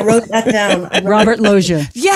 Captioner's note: laughs